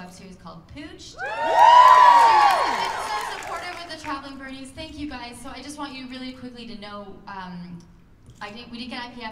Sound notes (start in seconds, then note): 1.2 cheers and applause